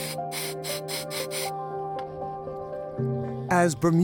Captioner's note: air hissing